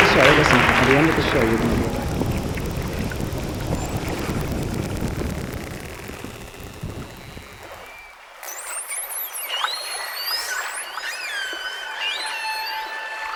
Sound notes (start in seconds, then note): 0.0 applause fades; 2.2 ocean sounds; 8.8 ocean and whale sounds